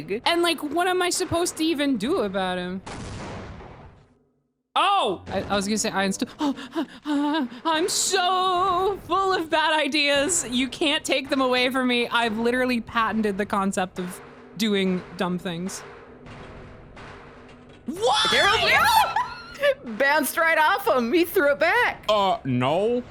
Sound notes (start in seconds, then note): 2.8 explosion; 6.2 panicked breathing